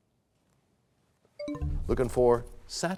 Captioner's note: bell chimes, time expires